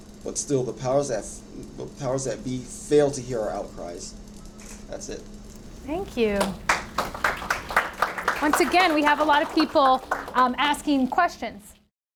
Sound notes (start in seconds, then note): 7.5 audience applauds